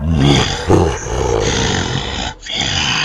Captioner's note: Sickle laughing